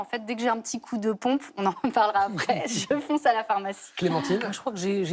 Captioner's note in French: rires